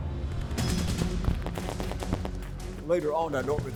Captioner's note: gunshots firing